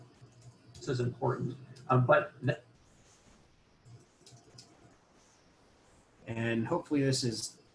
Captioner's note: typing; typing